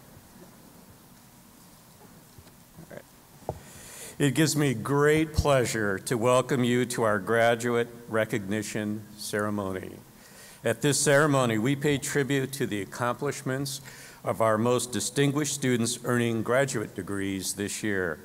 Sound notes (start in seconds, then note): none